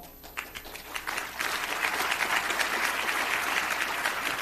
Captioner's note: audience applauding